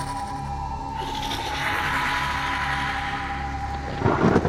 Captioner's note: creatures growling